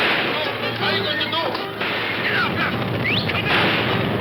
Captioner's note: whistles; guns firing; suspenseful orchestral music